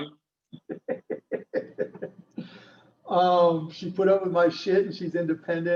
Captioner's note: laughs